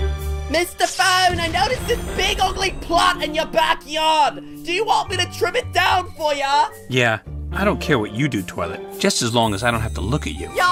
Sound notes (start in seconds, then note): none